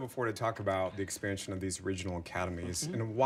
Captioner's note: laughter